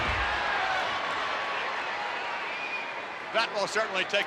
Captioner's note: crowd cheers